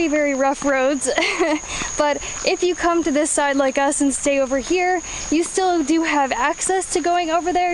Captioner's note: laughs